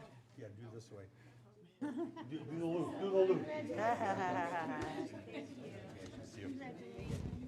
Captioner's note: laughter